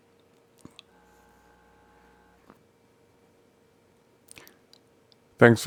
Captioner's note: silence